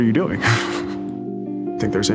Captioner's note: laughs